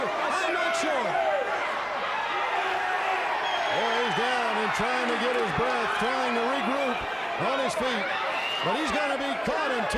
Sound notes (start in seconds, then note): 1.7 fans shouting